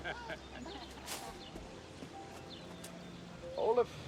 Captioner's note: guests Laughing